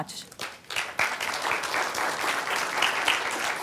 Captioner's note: applause